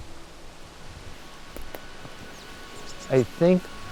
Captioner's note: wind sighing and bird chirping